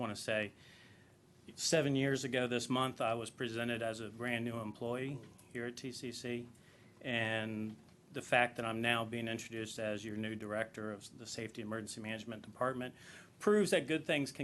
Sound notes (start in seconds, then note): none